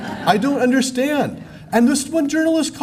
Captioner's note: laughter